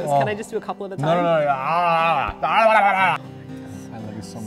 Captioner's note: uninterpretable sounds performed